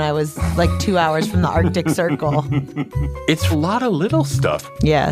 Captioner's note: laughs